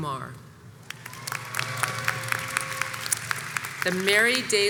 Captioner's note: audience applauds and cheers